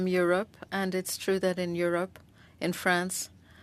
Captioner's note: speaking French